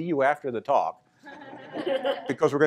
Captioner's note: laughter